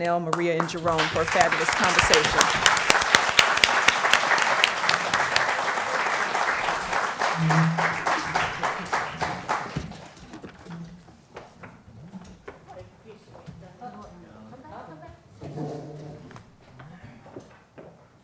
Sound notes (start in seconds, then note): 3.1 applause